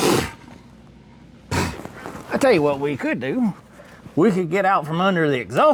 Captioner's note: blows Raspberry